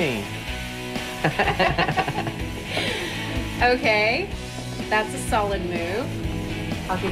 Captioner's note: laughter